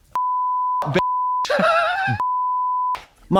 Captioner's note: beep